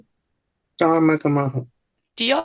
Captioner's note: Speaking Irish